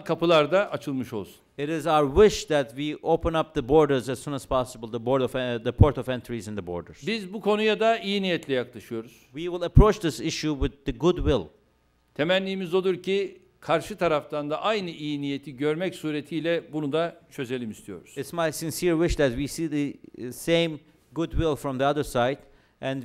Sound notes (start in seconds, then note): 8.3 non-english speech; 13.5 non-english speech